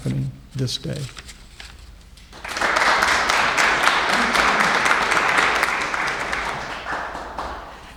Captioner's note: applauses